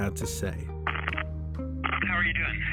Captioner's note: static crackling